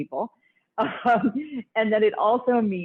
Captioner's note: laughs